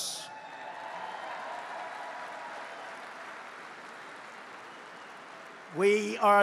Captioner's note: applause